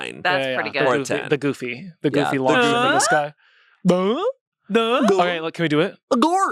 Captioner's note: everyone makes sound effects